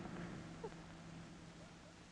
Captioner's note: chuckles